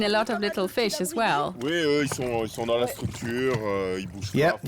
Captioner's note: speaking French